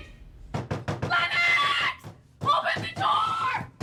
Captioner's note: knocks on door